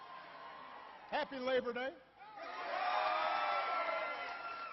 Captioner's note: applause